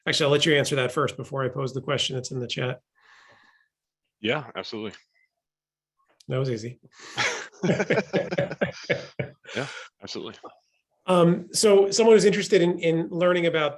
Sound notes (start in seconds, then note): 7.1 both laughing